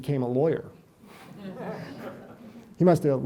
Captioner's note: audience laughs